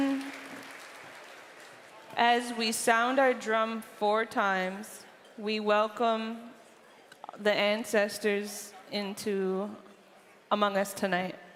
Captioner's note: cheering and applause